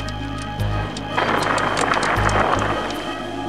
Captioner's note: roaring fire